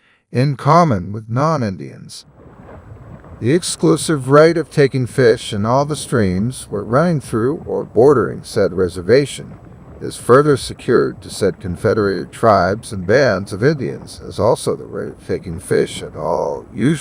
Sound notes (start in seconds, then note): 2.6 underwater